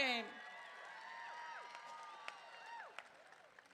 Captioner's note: crowd cheering